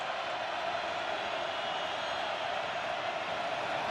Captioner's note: crowd cheering